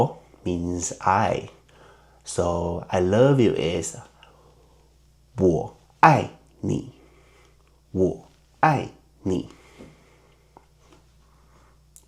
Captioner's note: in Mandarin